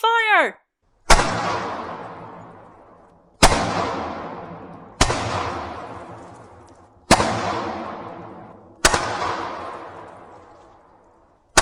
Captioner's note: shouting and six shots